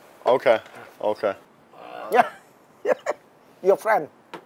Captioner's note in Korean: 웃음